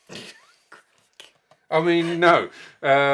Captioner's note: chuckles